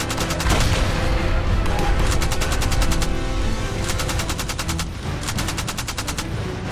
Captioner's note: explosion bangs; gunfire rattling